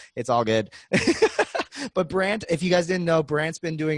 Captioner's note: laughing